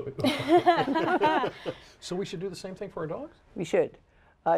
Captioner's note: laughter